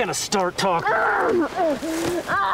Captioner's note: Promise grunts